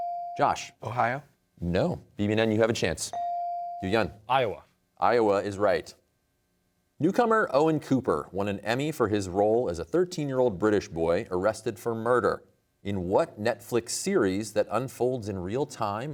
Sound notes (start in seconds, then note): none